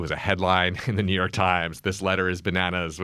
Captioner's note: laughs